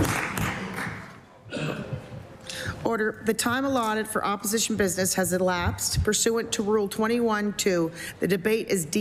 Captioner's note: applause